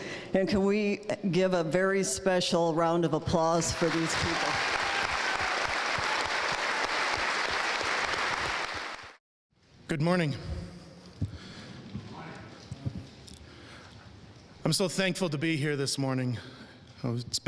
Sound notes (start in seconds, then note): 3.7 audience applauding; 5.7 audience cheering